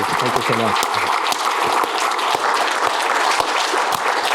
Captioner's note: applause